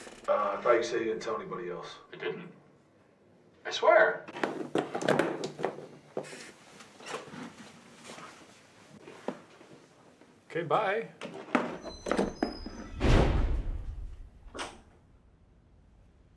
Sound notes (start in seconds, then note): 11.6 door slams; 14.4 door opens